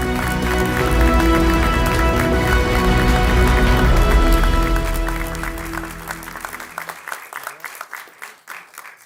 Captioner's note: clapping